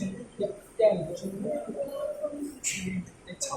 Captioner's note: Cantonese; Cantonese